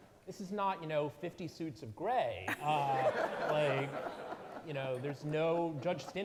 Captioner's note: audience laughing